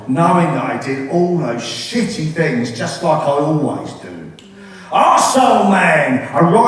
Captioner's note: none